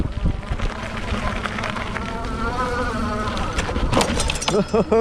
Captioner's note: bike engine roaring